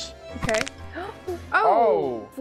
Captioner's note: nose cracks